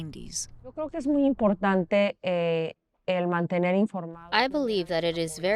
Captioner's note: speaking in foreign language